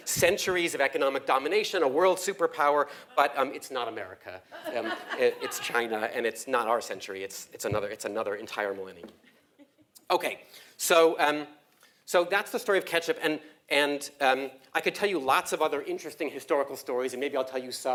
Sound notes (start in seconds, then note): 9.1 laugh